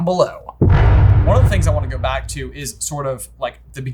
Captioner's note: intense boom